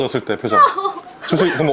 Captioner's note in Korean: 오열